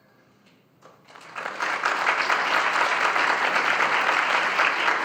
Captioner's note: audience applauding